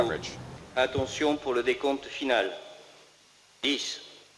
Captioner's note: speaking french